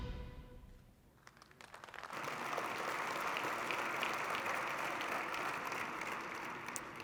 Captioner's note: applause